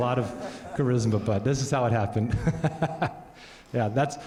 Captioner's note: laughs